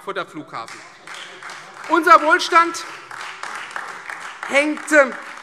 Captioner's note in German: Beifall Freie Demokraten und vereinzelt AfD